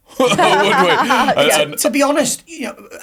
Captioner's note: laughing